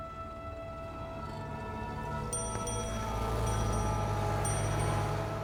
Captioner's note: bell ringing